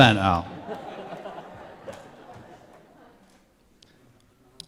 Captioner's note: laughter